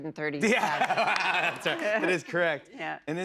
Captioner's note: laughs